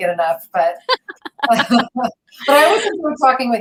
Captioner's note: laughing